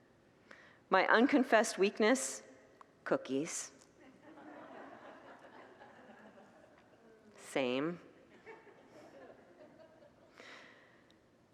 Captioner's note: congregants laugh